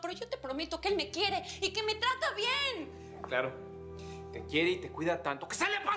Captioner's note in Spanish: none